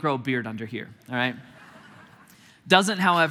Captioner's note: congregation laughing